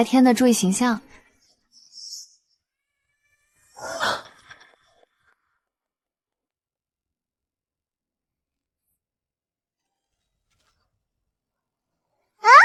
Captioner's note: gasp